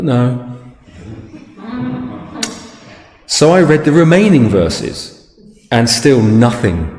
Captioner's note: audience laughs